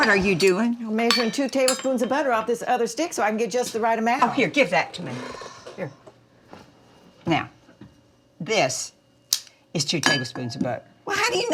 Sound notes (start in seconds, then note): 5.0 Dory exhales